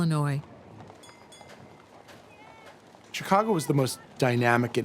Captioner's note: bell chimes, people chattering